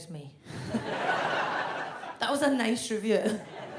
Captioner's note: audience laughs